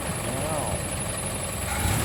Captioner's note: engine revving